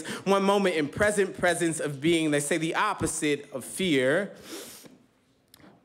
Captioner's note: inhales deeply